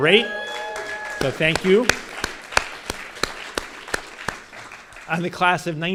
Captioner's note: audience cheers and applause